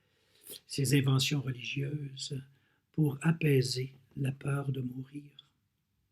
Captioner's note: translating in French